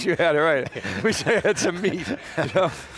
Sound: laughing

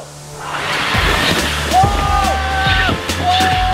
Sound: Zippy engine revving

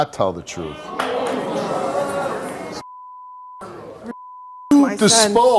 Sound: audience exclaims

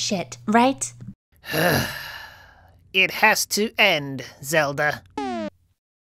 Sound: sighs loudly; beep sound

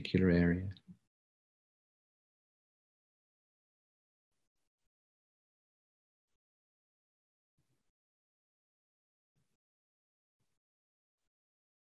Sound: long pause and silence

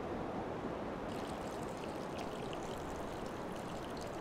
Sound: water running

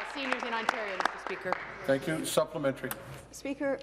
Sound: applause

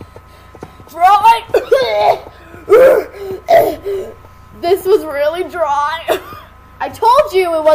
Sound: coughing; coughs

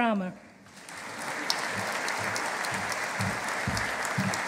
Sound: audience applauding

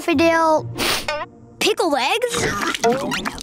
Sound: sniffing

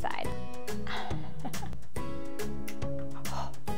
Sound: laughs

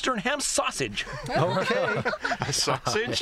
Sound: laughter

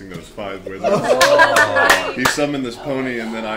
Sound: all laugh

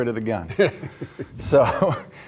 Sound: chuckles

